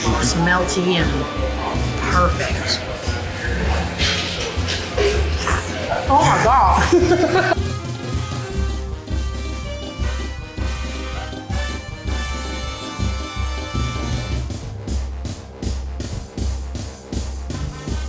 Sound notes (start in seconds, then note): 7.8 laughs; 9.9 zestful music